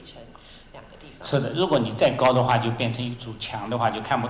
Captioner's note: Mandarin